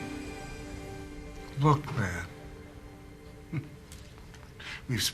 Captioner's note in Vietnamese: cười khẩy